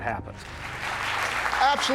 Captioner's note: applause